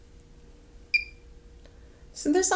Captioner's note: machine chirps twice rapidly; machine chirps once more